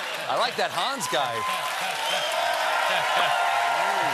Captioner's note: laughter; cheers and applause